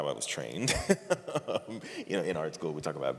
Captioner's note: laughter